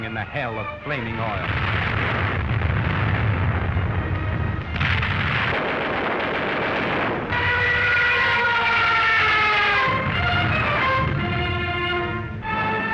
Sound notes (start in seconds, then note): 2.1 dramatic music; 2.1 explosions; 4.6 gunfire; 7.7 plane engine screeching; 9.8 explosion